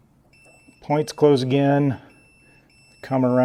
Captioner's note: beeping starts